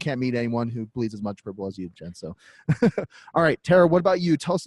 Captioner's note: laughs